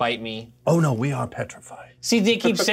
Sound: laughs

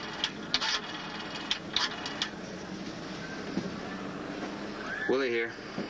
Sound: dialing

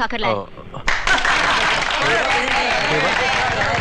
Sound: crowd Applauding

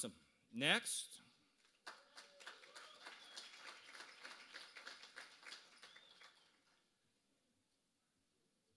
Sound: applause

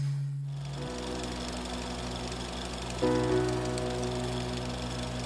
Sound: film reel turning

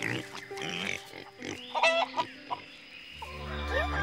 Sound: squealing

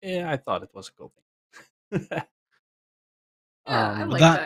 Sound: laughs

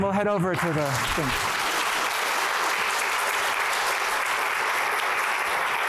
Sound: applause

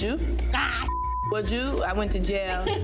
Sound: beep

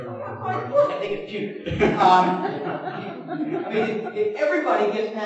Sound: audience laughs

